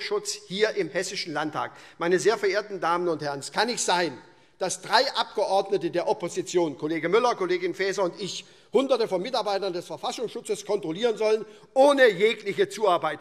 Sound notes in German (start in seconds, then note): none